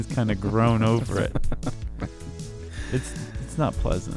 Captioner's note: laughs